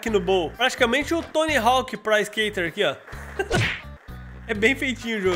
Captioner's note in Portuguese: risos